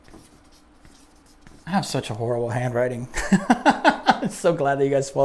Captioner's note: laughs